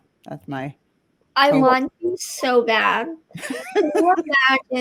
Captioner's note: laughing